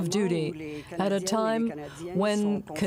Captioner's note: speaking French